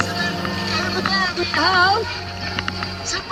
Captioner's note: laughing